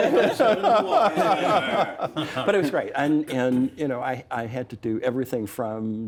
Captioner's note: laughter